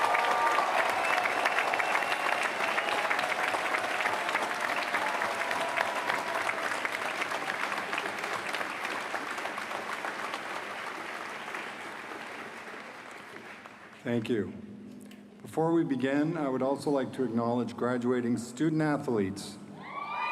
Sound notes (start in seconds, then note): 5.8 applause